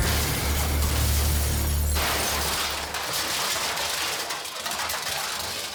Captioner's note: vehicle crashing and glass smashing